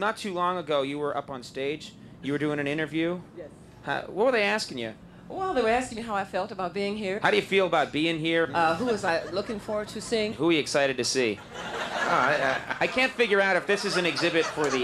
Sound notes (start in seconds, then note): 11.2 audience laughing